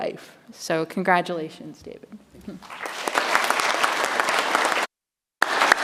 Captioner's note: audience applauds